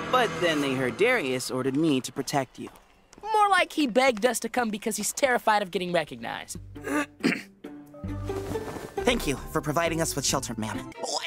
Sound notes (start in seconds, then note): 6.8 clears throat